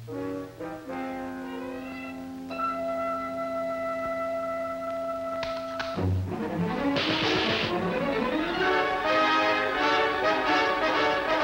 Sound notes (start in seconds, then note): 6.9 gunshots crack; 8.4 frantic music